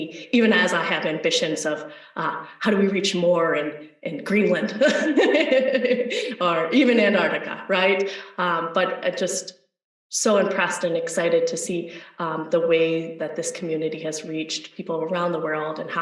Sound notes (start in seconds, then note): 4.5 laughs